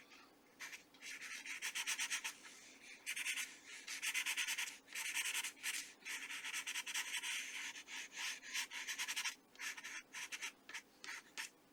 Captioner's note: scratching